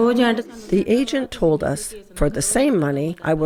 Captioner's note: through translator